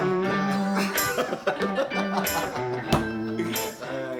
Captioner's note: soft music; laughing